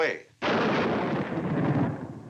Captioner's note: thunder crashing